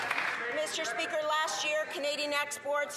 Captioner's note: some Applause